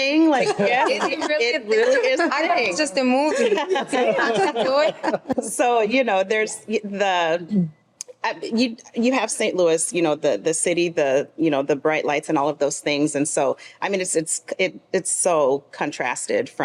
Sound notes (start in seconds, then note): 3.3 group laughs